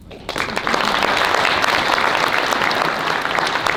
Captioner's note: applause